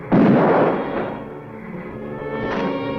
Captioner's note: gunshot